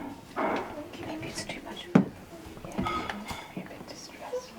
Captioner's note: whispering